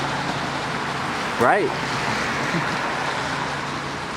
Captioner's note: chuckles